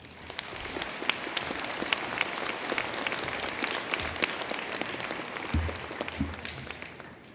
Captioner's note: applause